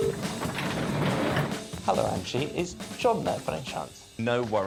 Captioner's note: line ringing